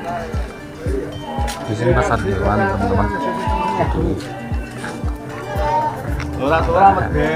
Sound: clap

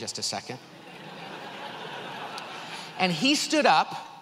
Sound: audience laughs

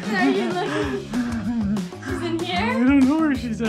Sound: laughing

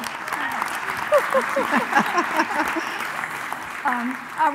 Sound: applause; laughing

